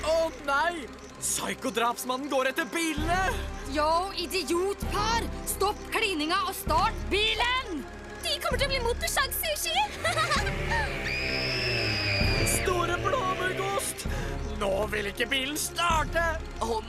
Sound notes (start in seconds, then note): 9.6 laughing; 9.8 woman screaming